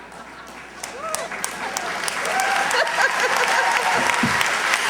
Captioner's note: cheers, applause